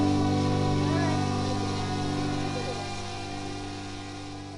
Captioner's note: drone buzzing